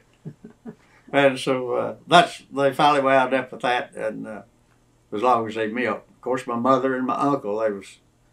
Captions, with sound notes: (Laughter) They finally wound up with that as long as they milked. Of course, my mother and my uncle